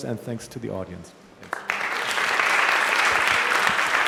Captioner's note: applause